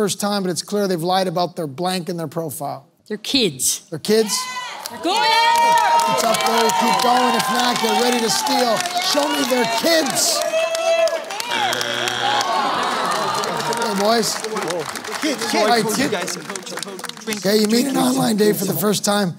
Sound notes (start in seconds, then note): 4.8 cheering; 11.4 buzzer sounds